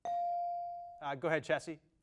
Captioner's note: bell dings